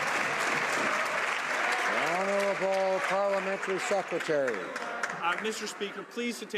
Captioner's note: some Applause